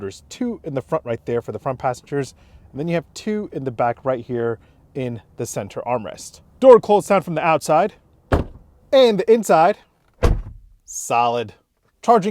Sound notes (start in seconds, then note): 8.3 door thunks; 10.2 door thunks